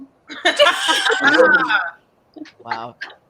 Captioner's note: all laugh